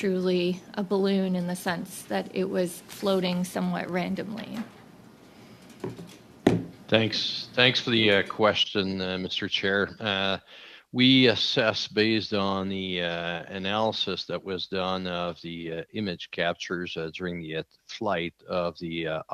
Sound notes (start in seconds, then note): 5.8 speaking French